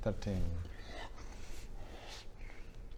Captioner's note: faint hiss